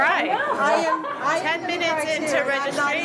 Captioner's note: laughs